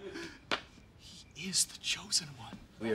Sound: whispers

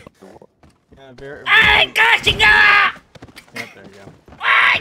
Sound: yells in Spanish

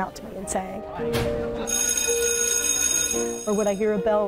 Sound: bell rings

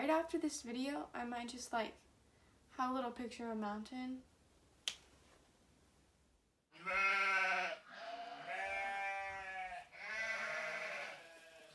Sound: sheep bleating

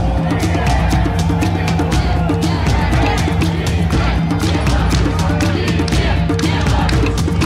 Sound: people chanting

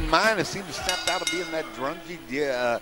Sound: bell ringing

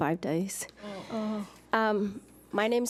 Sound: board members groan

